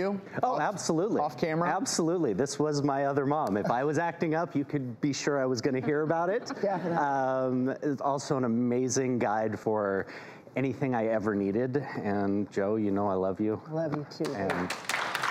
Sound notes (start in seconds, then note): 5.8 audience laughs